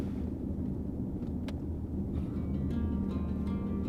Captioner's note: wind blowing sound; melancholic music